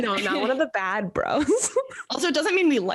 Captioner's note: laughs